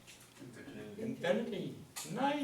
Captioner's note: voiceover